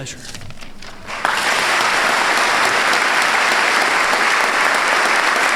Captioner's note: applause